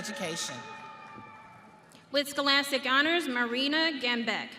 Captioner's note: audience cheering